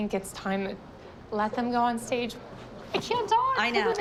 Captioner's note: voice breaking